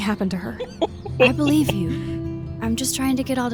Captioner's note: laughs